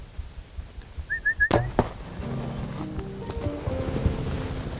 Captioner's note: whistling